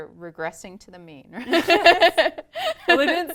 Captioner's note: laugh